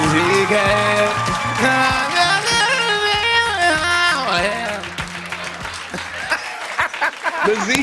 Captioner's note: laughter and applause